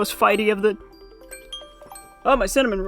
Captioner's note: phone alarm goes off